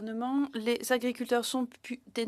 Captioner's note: speaking in French